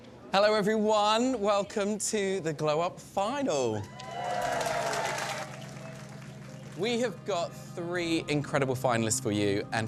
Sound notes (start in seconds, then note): 3.8 cheering & applause